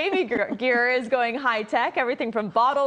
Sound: laughter

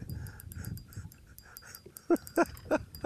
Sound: laughs

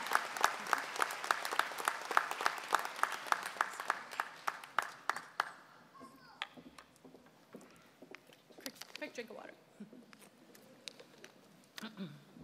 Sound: applause

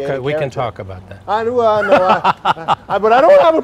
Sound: laughter

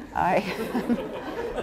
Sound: laughter

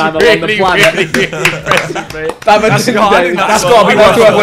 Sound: students laughing

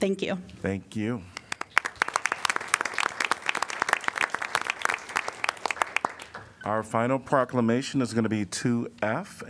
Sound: applause

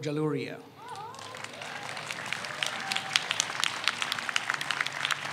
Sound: audience applauds

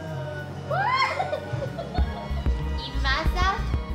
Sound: screaming

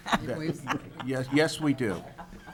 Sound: laughing

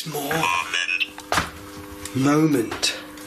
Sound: muffled synthesised noise

